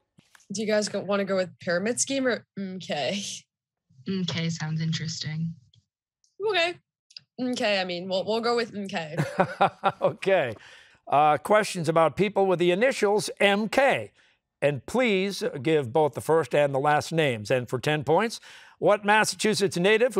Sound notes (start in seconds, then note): 9.2 laughing